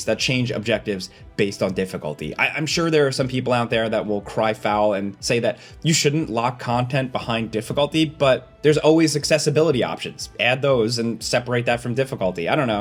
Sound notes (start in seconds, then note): none